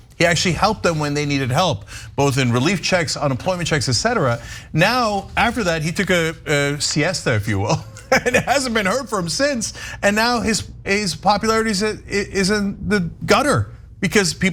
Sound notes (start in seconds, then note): 7.6 laugh